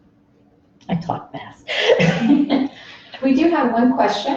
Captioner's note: laughs